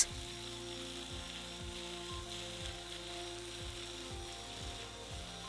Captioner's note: flap sander whirring